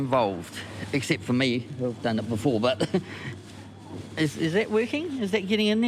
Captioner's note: laughs